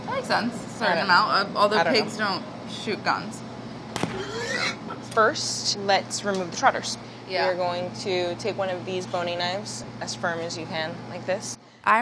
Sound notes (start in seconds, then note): 4.0 gun shots; 4.1 pig squealing